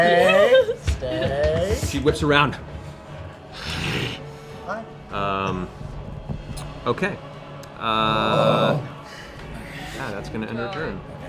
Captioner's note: growls